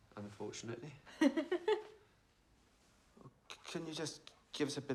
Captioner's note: giggling